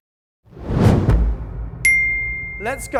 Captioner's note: alarm rings